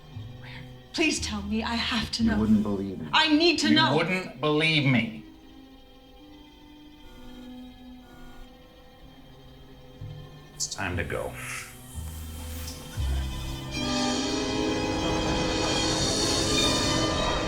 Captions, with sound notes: Where? Please tell me. I have to know. You wouldn't believe me. I NEED TO KNOW! You wouldn't believe me! [Communicator buzzing] It's time to go.